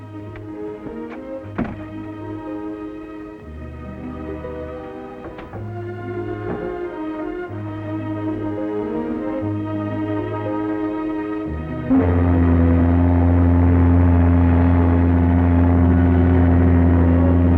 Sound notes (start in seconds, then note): 0.1 gentle orchestral music; 12.1 horn ship honking